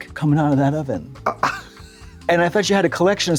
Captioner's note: Trixie giggles